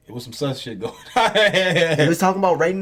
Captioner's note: laughing